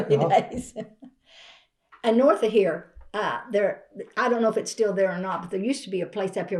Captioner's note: laughs